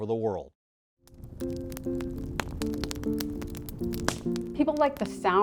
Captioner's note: crackling of the fire